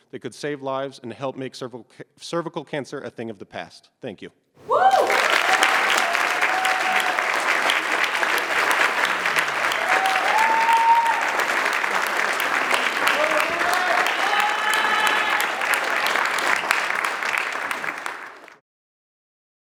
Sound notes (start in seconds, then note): 5.4 applause, cheering